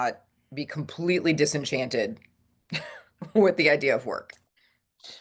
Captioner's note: laughs